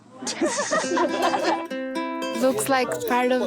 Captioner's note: laughter